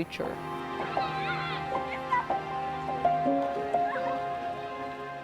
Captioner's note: children clamoring